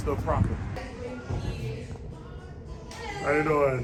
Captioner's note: general chit chat